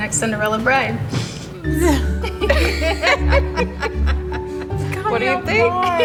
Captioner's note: laughing